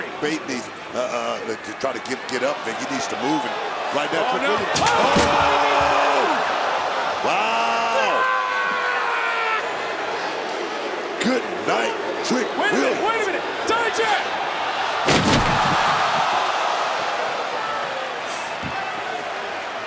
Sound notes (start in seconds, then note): 7.2 Bron screams; 15.3 crowd cheers